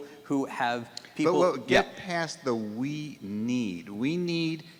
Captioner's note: voiceover